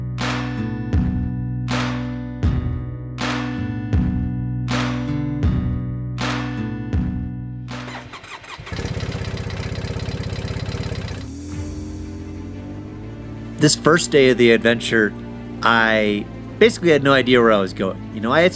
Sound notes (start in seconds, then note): 8.7 engine rumbling